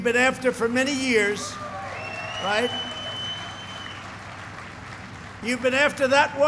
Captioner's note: applause